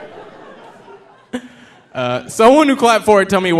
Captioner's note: audience laughing